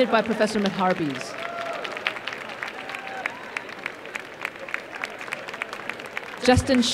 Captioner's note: applause and cheering